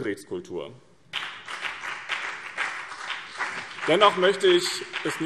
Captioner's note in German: Beifall BÜNDNIS 90/DIE GRÜNEN und vereinzelt CDU